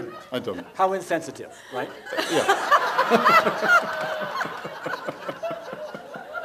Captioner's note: couple and audience laugh